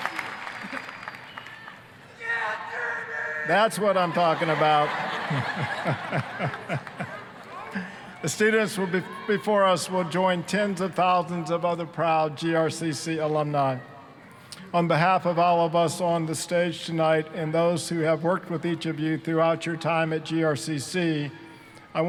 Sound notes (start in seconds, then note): 0.0 applause, cheering; 2.2 student screaming; 3.8 all laughing